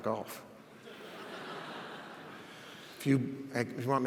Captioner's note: audience laughs